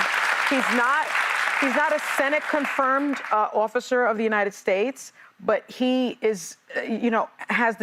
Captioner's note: applause